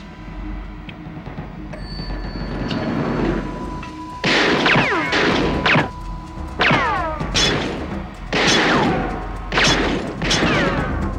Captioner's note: elevator opens